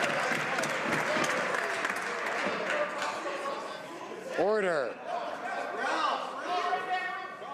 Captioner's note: some Applause